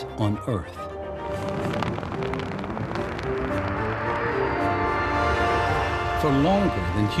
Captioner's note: flag flapping